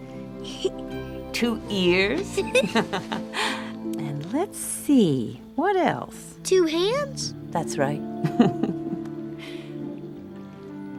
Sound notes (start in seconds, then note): 2.2 chuckles softly